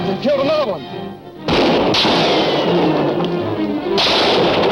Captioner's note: guns roaring